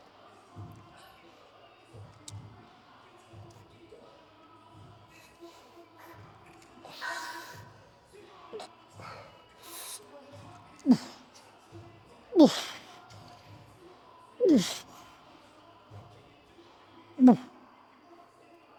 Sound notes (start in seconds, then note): 8.6 grunting